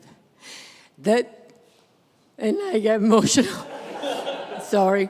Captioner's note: congregation laughs